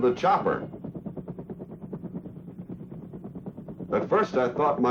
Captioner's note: helicopter rotor blades whirring